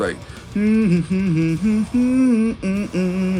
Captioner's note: humming